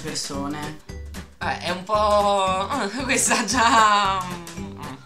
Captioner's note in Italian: ironica/accondiscendente